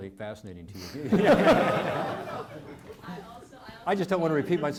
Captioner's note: audience laughing